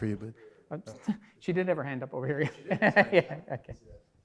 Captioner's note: laughs